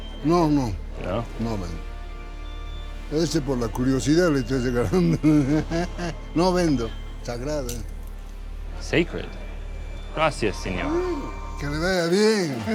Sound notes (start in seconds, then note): 0.3 speaking Spanish; 10.0 speaking Spanish